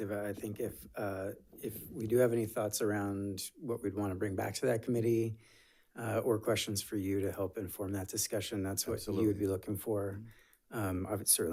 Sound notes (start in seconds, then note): none